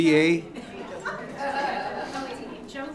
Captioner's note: audience laughs